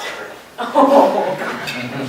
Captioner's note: laughter